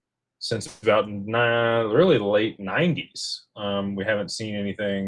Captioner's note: none